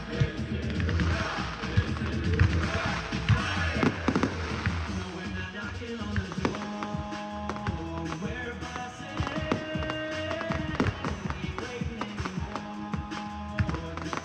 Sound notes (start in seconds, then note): 0.0 cheering drowns out choir; 8.2 firecrackers drown out singer